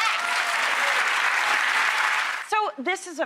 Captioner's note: crowd applauds